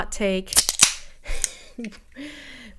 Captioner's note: pop